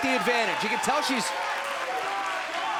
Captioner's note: crowd chatter